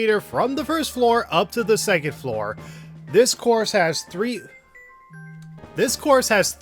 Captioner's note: cell phones rings